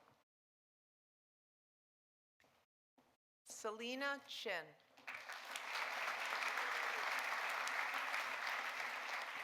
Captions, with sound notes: Salina Chin. (audience applauding)